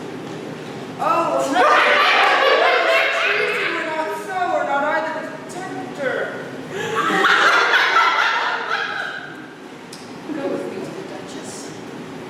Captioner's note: laughter